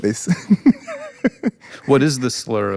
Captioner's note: both laughing